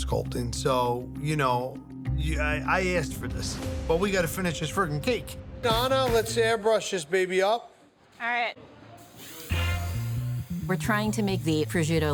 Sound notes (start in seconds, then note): 9.0 airbrush hisses